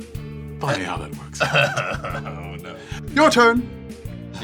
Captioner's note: laughs